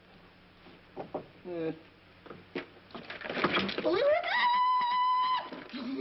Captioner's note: screaming